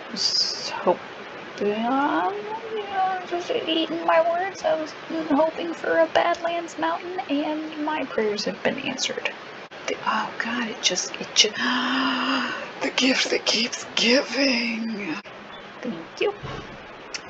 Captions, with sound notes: - just hoping... ahh? I'm just eating my words I was hoping for a badlands mountain and my prayers have been answered. Th - oh god, it j - it j - (gasp) The gift that keeps giving! Thank you -